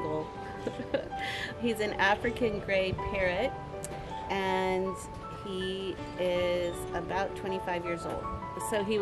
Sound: laughs

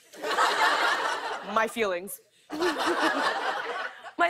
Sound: laughter

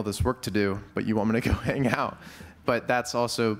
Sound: laughs

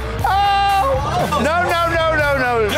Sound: wails

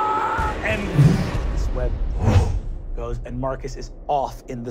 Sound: wooshing

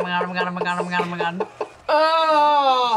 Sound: laughs

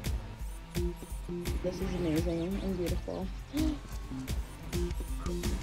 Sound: gasps

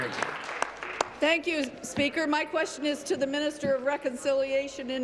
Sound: applause

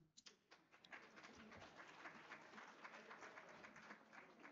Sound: audience applauds

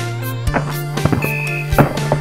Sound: microphone being shoved

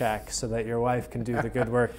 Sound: laughing

